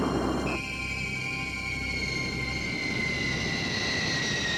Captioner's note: airplane squealing